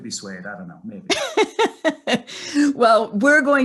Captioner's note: laughing